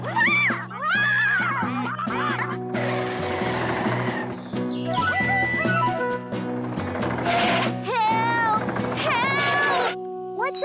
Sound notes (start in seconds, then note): 2.7 tires Squealing; 6.8 tires Squealing